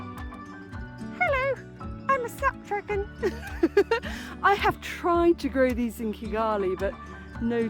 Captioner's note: laughing